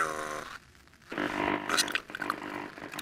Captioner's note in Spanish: interferencia en la radio